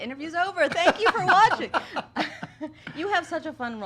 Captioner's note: laughing